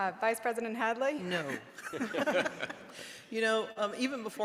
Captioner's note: laughs